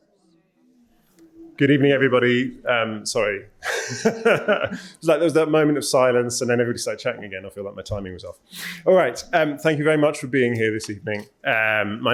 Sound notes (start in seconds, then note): 3.6 laughs